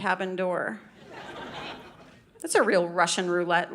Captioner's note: audience laughing